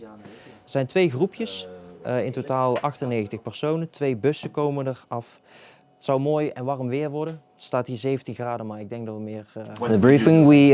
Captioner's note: speaking Dutch